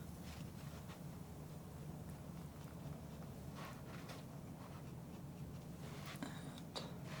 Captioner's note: scratching